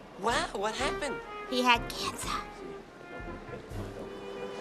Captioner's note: whispers